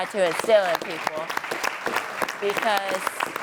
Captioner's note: audience applauds